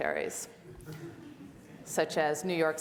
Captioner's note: audience laughs